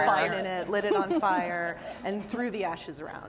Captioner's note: laughter